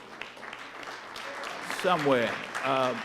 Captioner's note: audience applauding